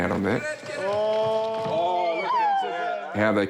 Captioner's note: exclaims